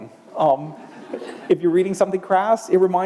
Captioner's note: laughter